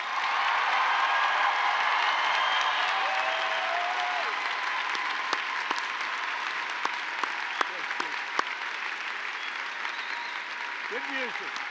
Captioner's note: applause